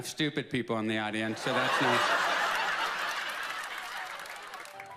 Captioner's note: laughs